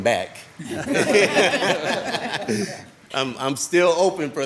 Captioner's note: all laughing